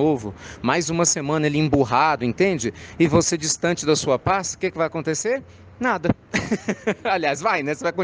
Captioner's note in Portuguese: risadas